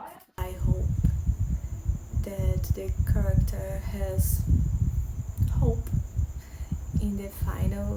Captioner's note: ~sons de grilos depois da chuva~